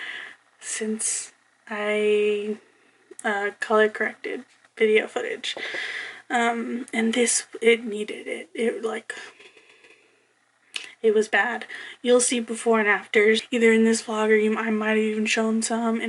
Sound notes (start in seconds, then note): 10.3 sighs